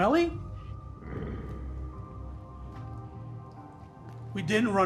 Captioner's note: Pete growls